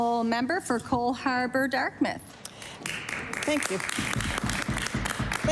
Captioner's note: applause